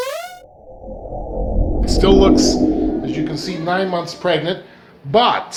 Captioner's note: whooshing